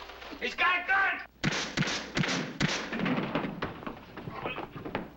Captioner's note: gun firing